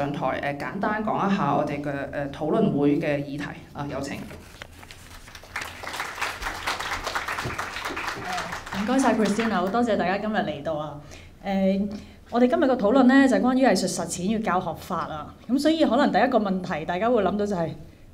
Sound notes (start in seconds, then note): 5.1 audience clapping; 8.9 Cantonese